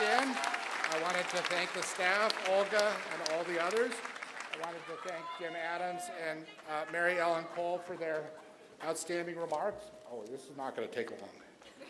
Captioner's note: applause